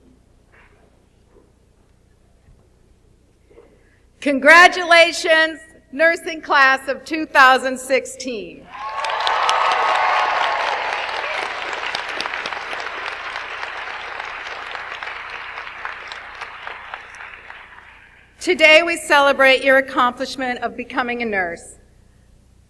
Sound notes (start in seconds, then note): 8.7 audience applauds